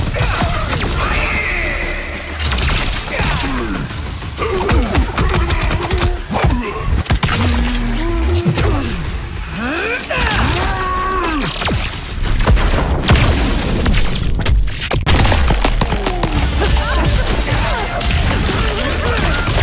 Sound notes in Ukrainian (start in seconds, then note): 0.1 кричить